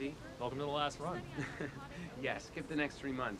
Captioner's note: laughs